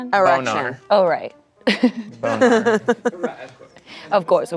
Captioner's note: laughs